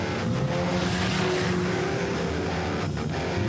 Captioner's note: car speeds